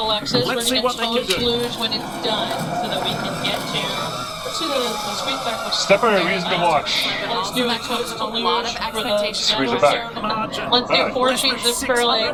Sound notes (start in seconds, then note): 4.7 sled rasping; 6.0 commentators and employees chattering indistinctly